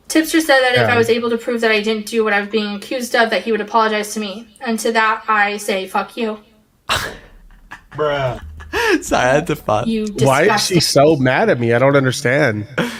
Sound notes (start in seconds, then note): 6.9 laughs; 6.9 bruh sound